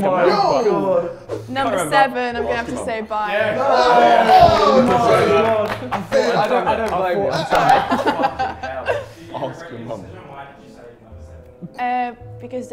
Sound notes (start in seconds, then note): 3.8 Sidemen cheering and clapping; 8.2 laughs